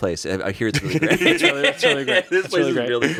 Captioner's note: laughs